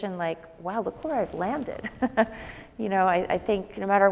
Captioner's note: laughs